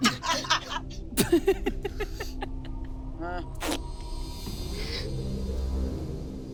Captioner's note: dramatic music; laughs; gasps; dramatic music continues